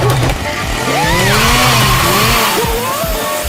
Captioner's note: screams for his life